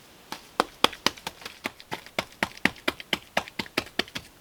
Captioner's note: patting